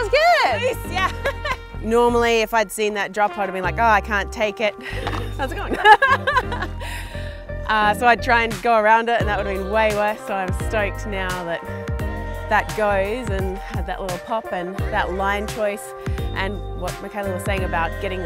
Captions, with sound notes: That was good! - Nice, yeah! Normally, if I'd seen that drop, I'd have been like, "Oh, I can't take it." How's it going? (laughs) So I'd try and go around it, and that would've been way worse, so I'm stoked now that that goes, and had that little pop, and that line choice, and what Micayla was saying about